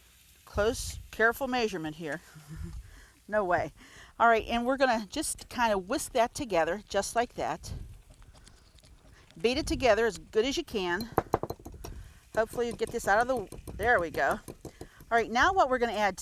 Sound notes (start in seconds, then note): 2.3 chuckles; 10.8 whisk banging